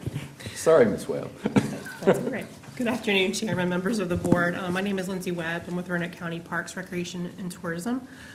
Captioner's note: laughter